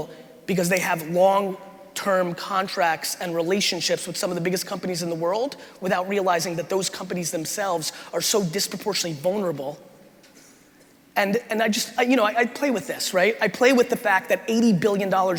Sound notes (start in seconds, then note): none